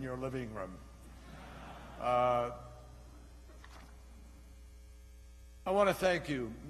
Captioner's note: laughter